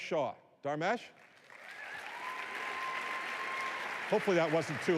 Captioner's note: applause